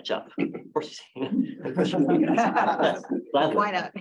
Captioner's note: laughter